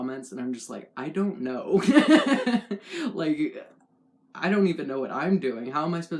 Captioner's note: laugh